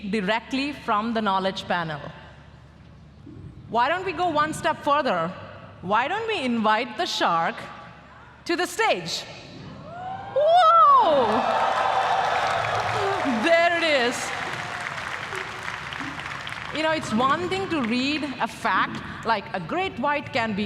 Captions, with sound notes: directly from the knowledge panel. Why don't we go one step further? Why don't we invite the shark to the stage? Whoa! [APPLAUSE] There it is. It's one thing to read a fact like "a great white can